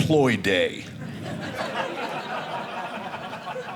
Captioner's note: audience laughing